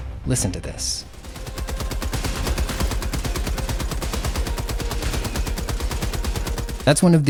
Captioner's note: rhythmic gunfire